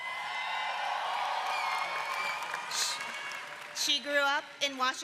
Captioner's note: applause